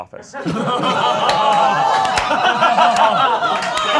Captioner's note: all laughing